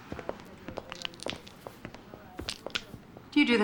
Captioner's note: cracking knuckles